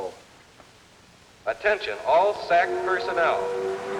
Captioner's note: man on PA